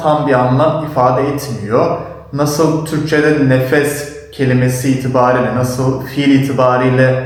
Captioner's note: breath